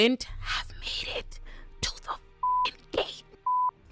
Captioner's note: beep